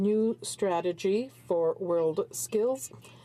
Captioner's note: speaking french